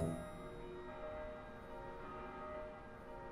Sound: bells ringing

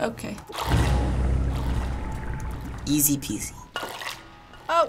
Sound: liquid sloshing

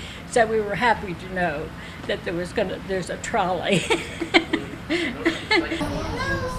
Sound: laugh

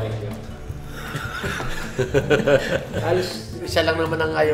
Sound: laughter

